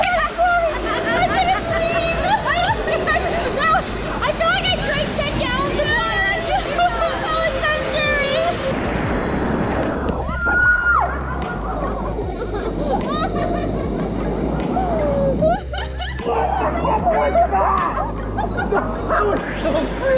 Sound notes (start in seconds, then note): 2.2 laughing; 9.2 laugh; 10.3 cheering; 11.0 laughing